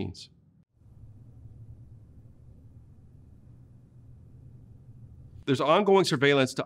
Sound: silence

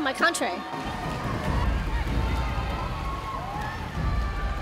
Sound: cheering

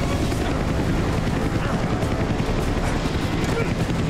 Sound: grunting

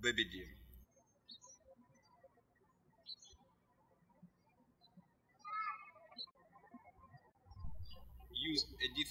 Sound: birds chirping

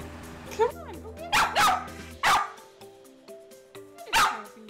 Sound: Sophie argues and barks

